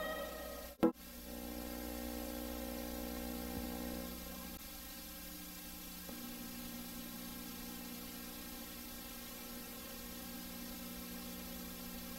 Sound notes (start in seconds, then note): 1.7 VHS static; 6.2 VHS static